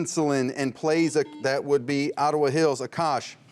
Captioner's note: buzzer rings